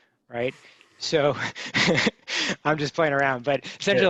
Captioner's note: chuckling